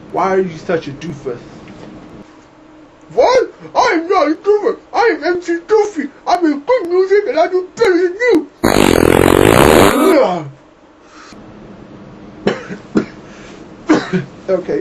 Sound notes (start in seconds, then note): 8.6 loud flatulence sound; 13.9 interviewer coughs